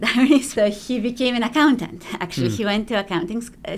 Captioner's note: chuckles